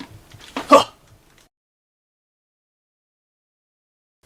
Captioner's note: scientist gasps